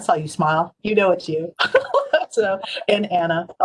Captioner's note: laughs